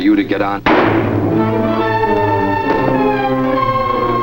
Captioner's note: gunshot fires